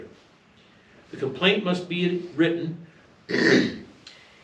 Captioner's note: clears throat